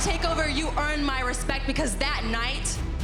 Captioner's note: crowd cheering